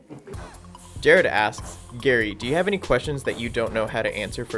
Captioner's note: voiceover